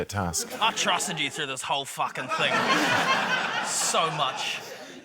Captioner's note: laughter